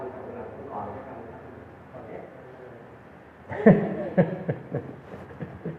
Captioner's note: laughs